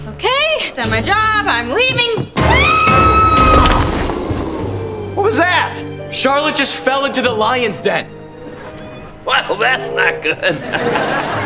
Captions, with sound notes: OK, done my job, I'm leaving. [screaming] - What was that? - Charlotte just fell into the lion's den. Well that's not good.